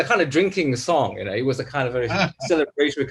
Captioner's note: laughs